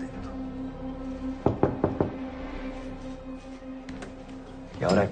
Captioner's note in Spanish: Toque en la puerta